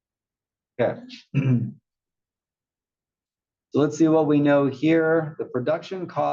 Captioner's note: cough